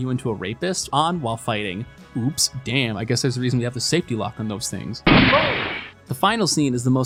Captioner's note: gunshot